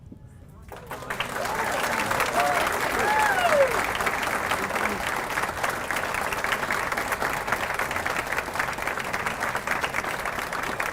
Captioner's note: applause